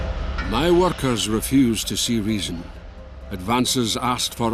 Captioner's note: Voz en off